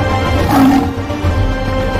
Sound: mufasa roars

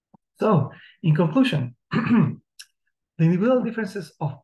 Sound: clears throat

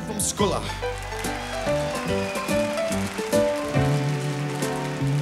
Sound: audience cheers

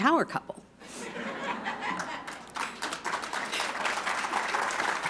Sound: applause

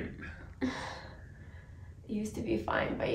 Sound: sighs

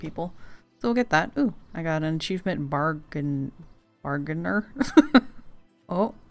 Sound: laughs

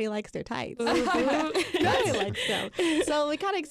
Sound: group laughs

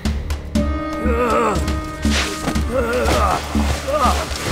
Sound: Leonard groaning

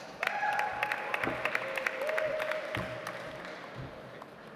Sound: audience applauds

